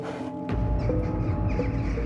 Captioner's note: birds squawking